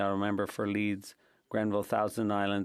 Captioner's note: speaking French